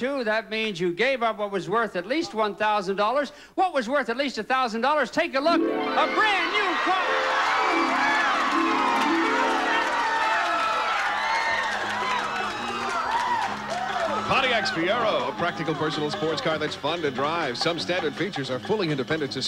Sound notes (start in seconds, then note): 8.6 audience applauding